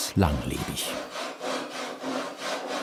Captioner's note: sawing